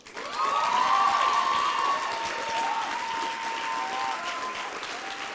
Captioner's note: applause and cheering